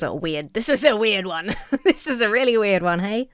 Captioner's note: laughs